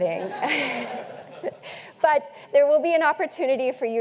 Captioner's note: audience laughing